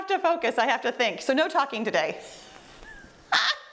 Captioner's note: laughs